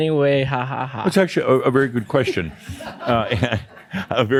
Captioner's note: some chuckles